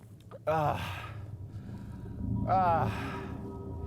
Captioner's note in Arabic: آهات كارتر